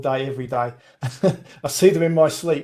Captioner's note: laughs